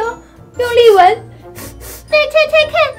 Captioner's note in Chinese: 用力嗅聞聲